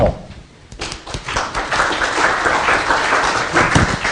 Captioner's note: applause